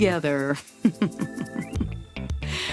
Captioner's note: mischievous Laughter